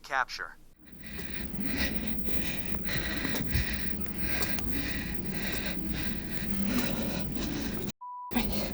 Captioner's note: heavy Breathing